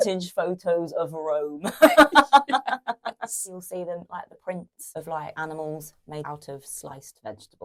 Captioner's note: laughs